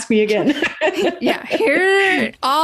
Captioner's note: laughs